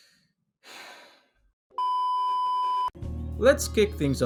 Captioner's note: sigh